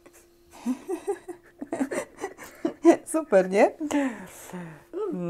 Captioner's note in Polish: śmiech